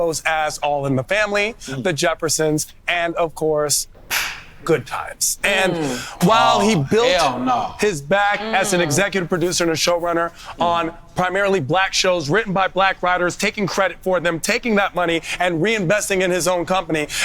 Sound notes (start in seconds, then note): 3.8 clapping